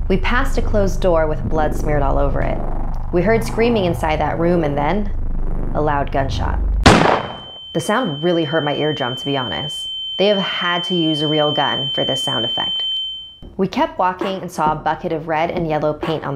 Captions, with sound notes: We passed a closed door with blood smeared all over it. We heard screaming inside that room, and then... A loud gunshot. (gun bangs) (high pitched ringing) The sound really hurt my eardrum, to be honest. They have had to use a real gun for this sound effect. We kept walking and saw a bucket of red and yellow paint